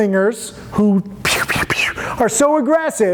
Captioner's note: hissing